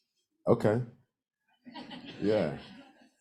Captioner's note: crowd laughs